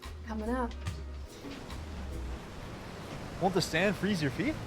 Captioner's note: waves crashing